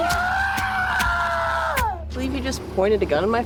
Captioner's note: Johnny screams; body thuds